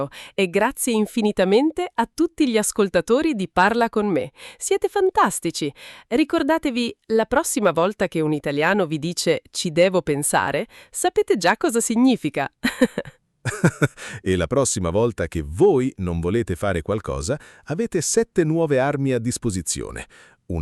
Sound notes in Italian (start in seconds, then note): 13.4 risate